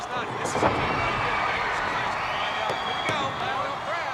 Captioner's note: crowd cheers